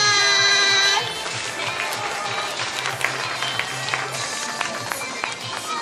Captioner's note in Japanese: 拍手